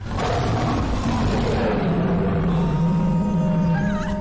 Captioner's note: lion roaring